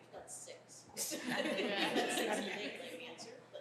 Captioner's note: chuckling